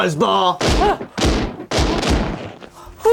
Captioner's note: gun shots